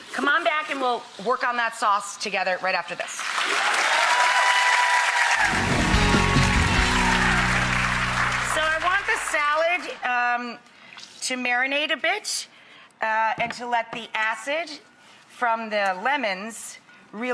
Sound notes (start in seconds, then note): 3.3 audience applauding; 5.4 upbeat music